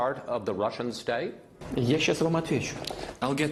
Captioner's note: speaking Russian